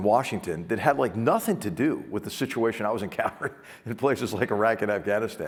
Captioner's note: laugh